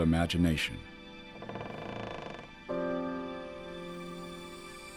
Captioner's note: loud creak